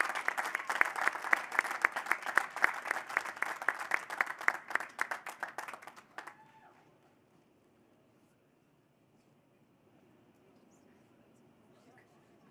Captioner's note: cheers and applause